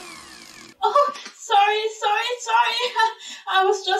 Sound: laughs

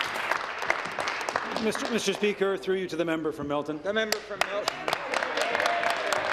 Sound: applause

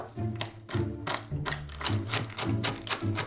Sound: knife chopping

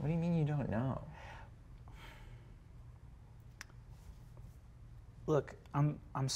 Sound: inhales and exhales softly

